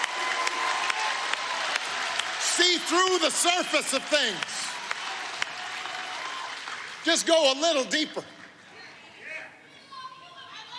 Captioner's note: applause